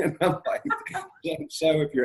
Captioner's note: laughs